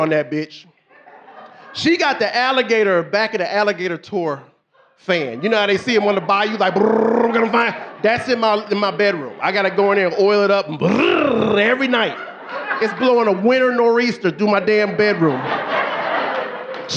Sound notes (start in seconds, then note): 6.7 roaring; 10.8 roaring; 16.7 audience laughing